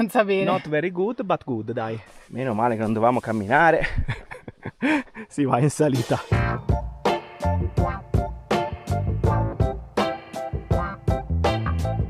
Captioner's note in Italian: risate